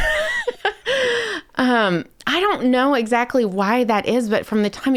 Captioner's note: laughs